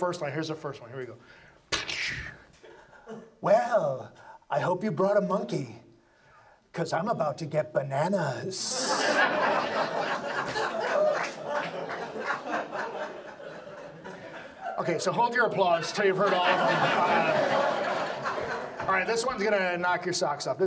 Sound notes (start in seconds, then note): 8.6 audience laughs; 18.7 audience laughs